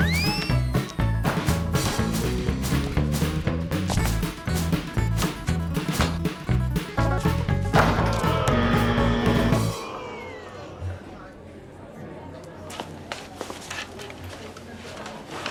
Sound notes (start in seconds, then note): 8.0 buzzer sounds